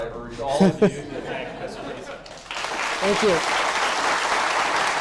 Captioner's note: applause